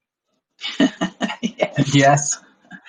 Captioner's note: laughs